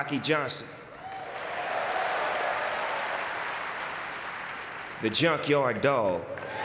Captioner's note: audience cheering and clapping